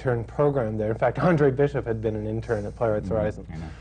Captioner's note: laughs